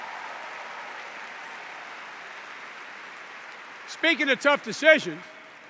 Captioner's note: applause